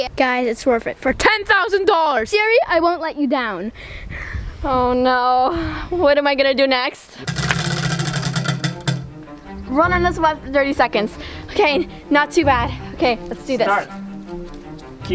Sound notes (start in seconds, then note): 7.2 wheel clanks around metal axle